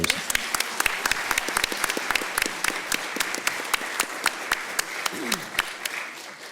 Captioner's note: clapping